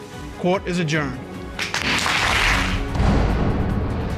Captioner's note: audience applauding; dramatic music playing